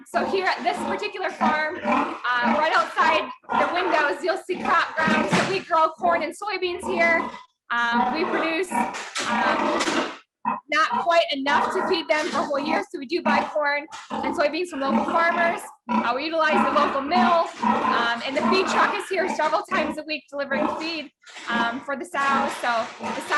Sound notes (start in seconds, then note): 9.8 machine rattling